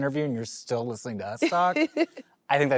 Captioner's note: laughs